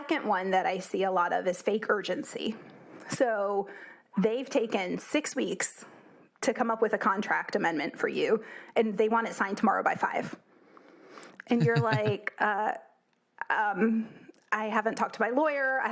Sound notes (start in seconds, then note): 11.5 laugh